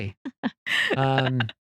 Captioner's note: laughing